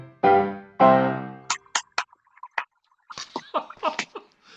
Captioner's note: making fish noises